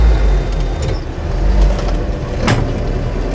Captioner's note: car engine revving